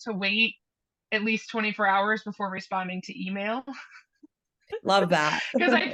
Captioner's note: laughs